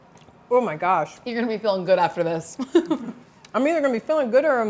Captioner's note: chuckles